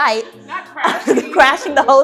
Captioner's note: laughs